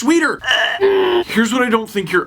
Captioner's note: disgusted gag-type sounds